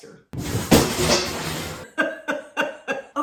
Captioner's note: pans crashing; laughter